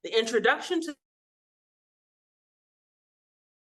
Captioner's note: audio cuts out